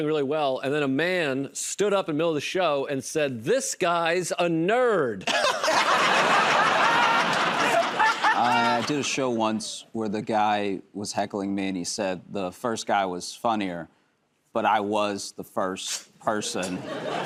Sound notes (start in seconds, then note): 5.2 laughter; 7.0 applause; 16.6 laughter